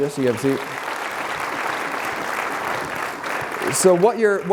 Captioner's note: applause